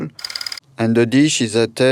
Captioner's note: slide rolling